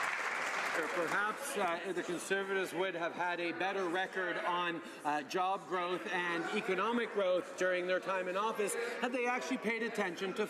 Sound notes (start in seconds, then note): 2.8 some Applause